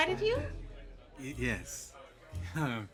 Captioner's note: chuckles